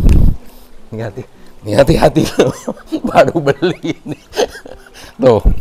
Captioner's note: laugh